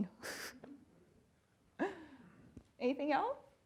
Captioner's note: chuckling